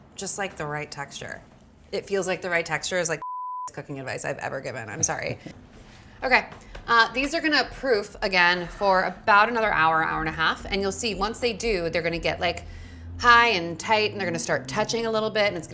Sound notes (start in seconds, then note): 3.2 beep